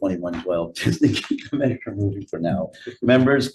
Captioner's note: laughing